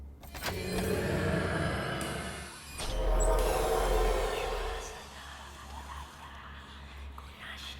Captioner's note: multiple evil spirit voices